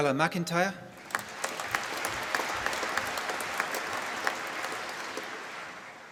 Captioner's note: applause